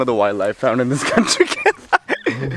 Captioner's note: laughs